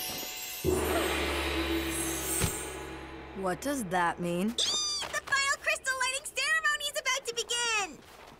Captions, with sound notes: (gong chiming) What does that mean? Eee! The final Crystal Lighting Ceremony is about to begin!